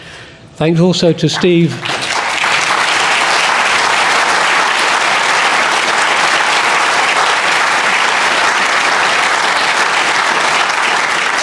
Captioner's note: applause